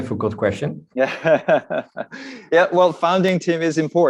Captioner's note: laughs